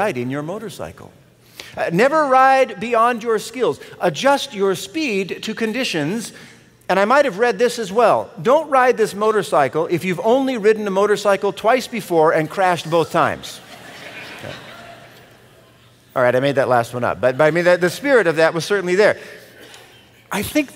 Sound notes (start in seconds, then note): 13.4 laughter